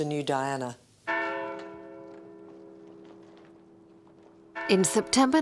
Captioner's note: bells ringing